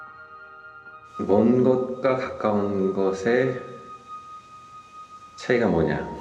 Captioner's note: speaking in Korean